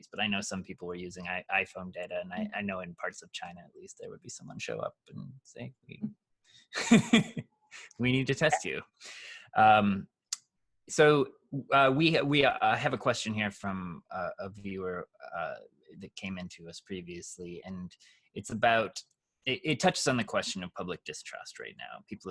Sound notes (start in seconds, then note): 6.8 chuckles